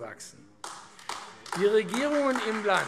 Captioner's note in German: Beifall AfD